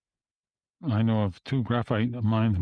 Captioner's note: speaking French